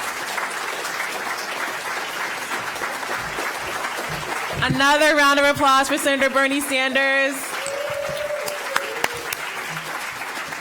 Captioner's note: applause